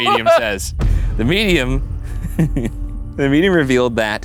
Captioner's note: laughing